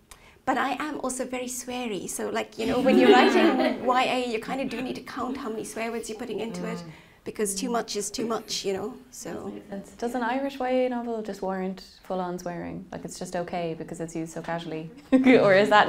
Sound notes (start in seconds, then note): 2.6 laughing; 14.8 laughing